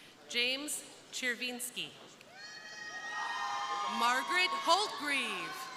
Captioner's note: crowd cheering